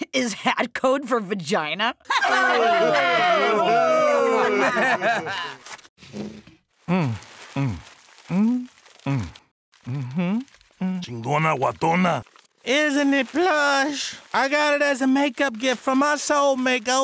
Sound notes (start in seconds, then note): 2.1 students laughing; 6.8 pleasurably moaning; 11.2 speaking foreign language